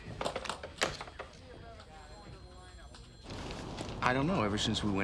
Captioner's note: phone clicks in receiver